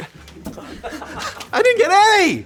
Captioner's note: laughing